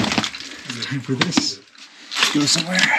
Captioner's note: box thumping; hand patting